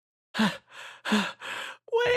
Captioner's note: Karat Panting